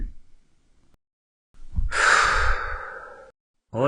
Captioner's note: sigh